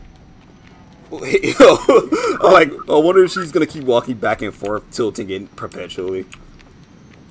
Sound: laughs

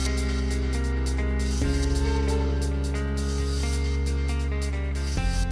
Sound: sound of bus brake

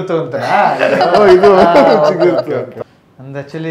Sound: laughing

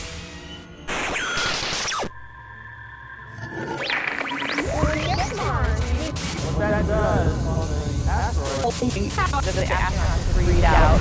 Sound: sound Effects

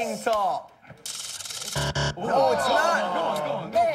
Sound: buzzer

